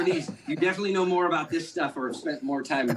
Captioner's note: laughter